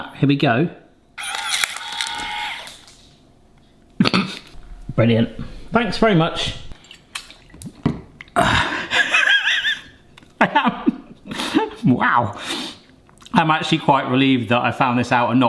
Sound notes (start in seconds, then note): 1.2 machine whirring; 8.9 laughing